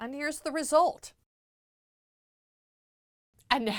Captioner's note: no Sound Present